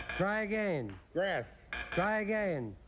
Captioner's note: buzz buzz